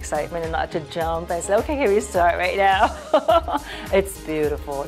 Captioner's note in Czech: laughs